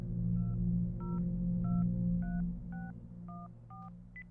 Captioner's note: foreboding music; phone dial beeping